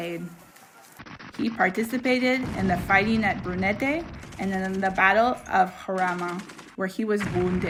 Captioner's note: gunshots